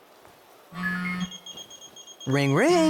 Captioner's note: phone Rings